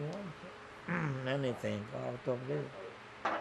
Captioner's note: clears throat